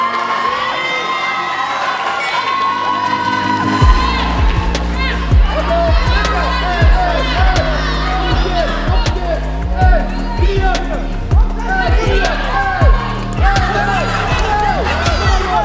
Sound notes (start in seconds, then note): 0.3 cheers; 3.7 bell